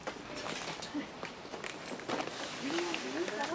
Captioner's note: wrapper paper crinkling